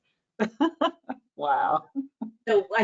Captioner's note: laughs